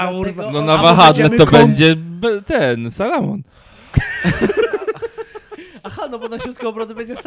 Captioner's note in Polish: śmiech